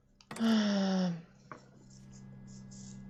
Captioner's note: deep sigh